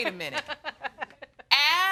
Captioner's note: laughing